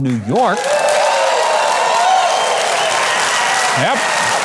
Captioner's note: audience cheering and applauding